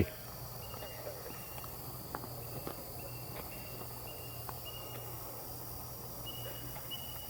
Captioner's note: katydids forest sounds